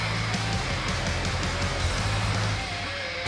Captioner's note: cheers and applause